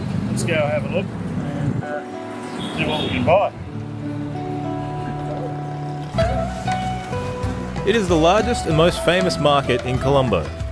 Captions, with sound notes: Let's go have a look, and see what we can buy. [Motorbike rumbling] [Tranquil Music] It is the largest and most famous market in Colombo.